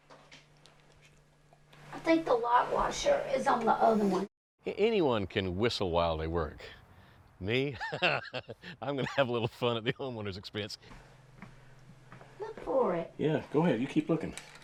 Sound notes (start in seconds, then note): 7.6 laughs